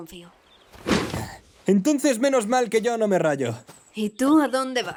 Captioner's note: sighs